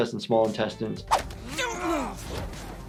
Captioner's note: growling